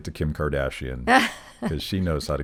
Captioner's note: laughing